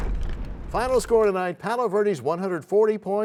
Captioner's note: crashing sound